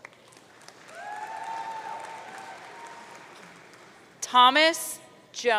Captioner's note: audience cheering